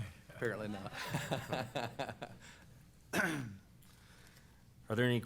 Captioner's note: laughter